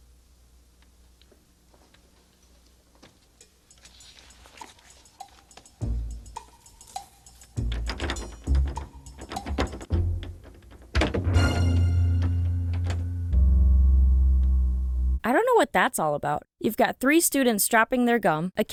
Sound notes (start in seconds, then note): 7.6 door knob sound; 11.0 suspense music